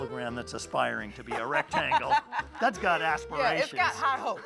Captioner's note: laughs